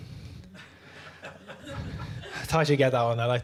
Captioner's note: laughter